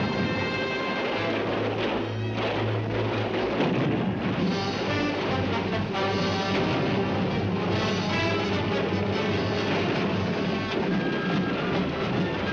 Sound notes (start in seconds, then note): 0.0 dramatic music; 3.0 artillery firing; 3.0 dramatic music